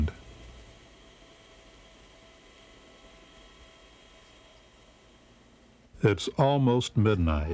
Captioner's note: silence